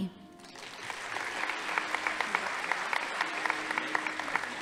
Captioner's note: audience applauding